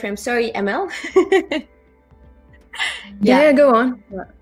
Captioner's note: chuckles